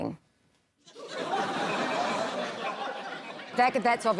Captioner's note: laughter